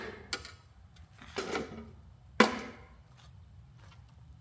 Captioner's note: metal clanks